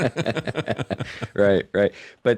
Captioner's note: both Laughing